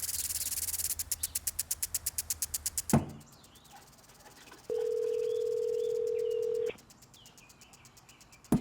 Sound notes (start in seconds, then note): 4.7 phone ringing